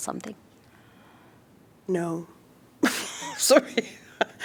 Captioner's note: laughter